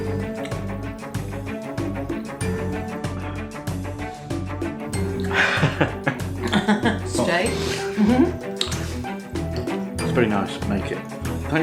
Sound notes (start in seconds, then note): 0.2 background music; 5.2 laffin